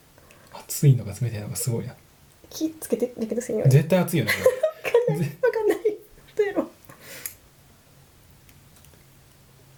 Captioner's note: laughs